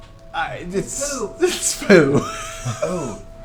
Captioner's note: laughs